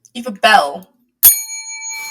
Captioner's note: dings bell